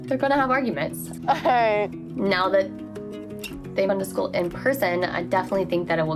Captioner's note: laughs